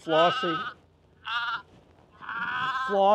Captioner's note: sheep baas